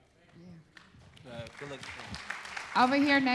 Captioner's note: applause